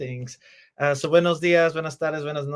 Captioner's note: speaks Spanish